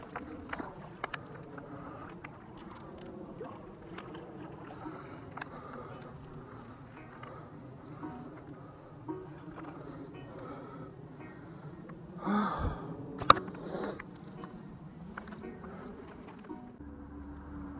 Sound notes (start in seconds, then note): 3.8 heavy breathing; 12.1 heavy sigh